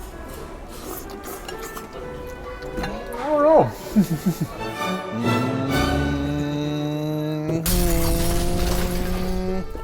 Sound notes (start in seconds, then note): 3.6 chuckles